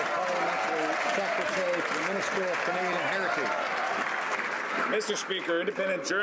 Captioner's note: some Applause